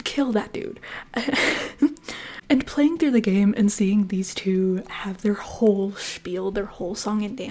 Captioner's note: laughter